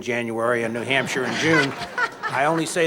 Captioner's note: audience laughter